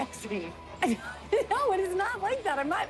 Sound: laughs

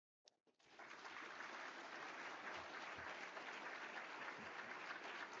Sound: audience applauds

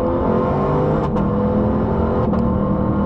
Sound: engine sounds

